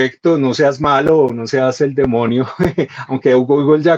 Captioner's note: laughs